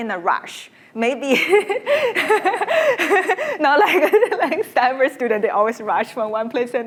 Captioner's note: laughs